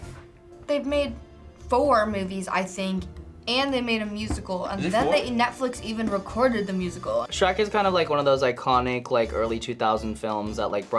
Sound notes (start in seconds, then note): none